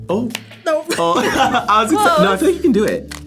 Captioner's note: both laugh